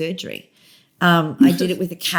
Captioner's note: laughter